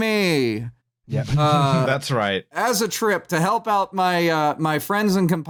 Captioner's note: chuckles